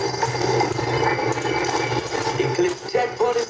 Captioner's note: engine Revving